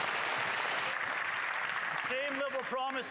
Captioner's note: some Applause